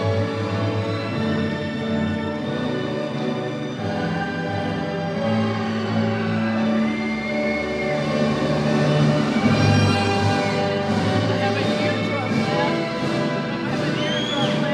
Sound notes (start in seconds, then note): 4.2 audience cheering; 11.6 people murmuring